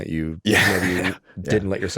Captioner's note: chuckles